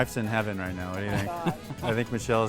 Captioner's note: laughing